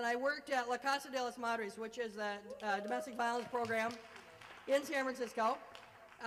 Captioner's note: applause